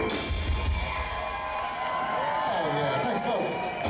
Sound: crowd cheers

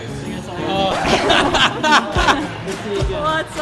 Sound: record scratch

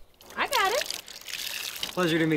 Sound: water sloshing

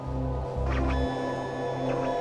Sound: machine scanning

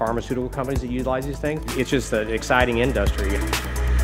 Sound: motor sound

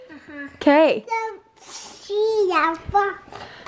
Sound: baby talk

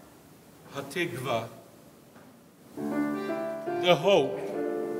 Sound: speaks in foreign language

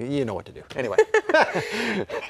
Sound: laughter

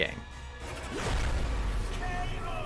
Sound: dramatic blasting

